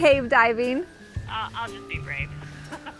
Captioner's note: laughs